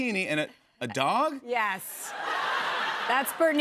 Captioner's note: laughter